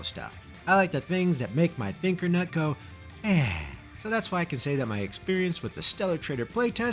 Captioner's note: sigh